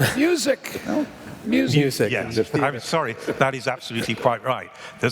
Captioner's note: laughter